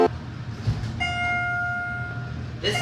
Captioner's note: ding